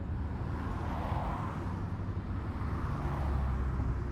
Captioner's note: car whooshing